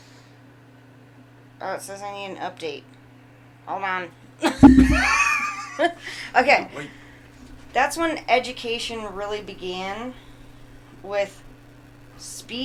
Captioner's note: laughing